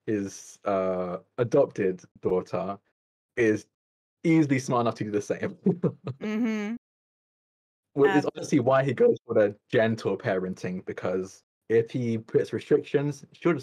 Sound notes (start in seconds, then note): 5.3 laughs